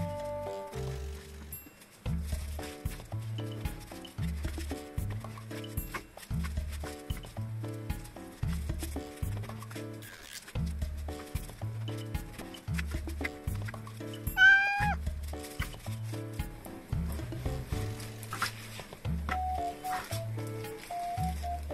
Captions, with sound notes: Please use a different cutting board and knife. And make sure to cook the chicken thoroughly. Thank you my orange boy. (meow) I'm using this plastic bag, but you can use a bowl.